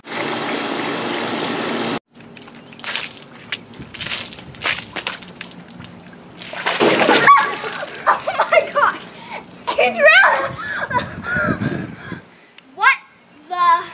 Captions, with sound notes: AHHH! Oh my gosh! Adriana! **Panting** What the...